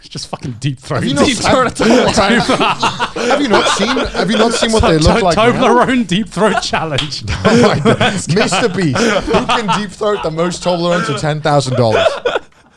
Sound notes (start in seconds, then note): 2.8 men laugh; 5.4 laughs